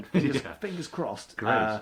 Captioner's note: laughs